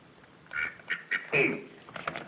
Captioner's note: quacks